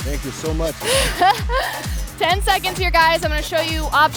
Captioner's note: laughs